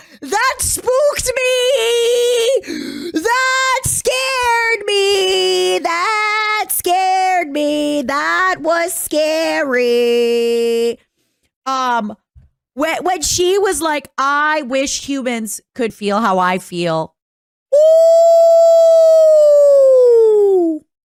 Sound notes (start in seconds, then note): 2.6 gasp